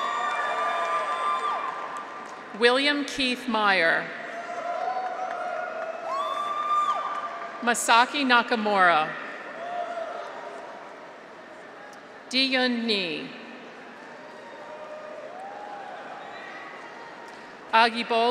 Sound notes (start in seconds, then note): 0.0 graduates cheer; 0.0 audience applauds; 4.2 graduates cheer; 4.7 audience applauds; 9.4 graduates cheer; 13.8 graduates cheer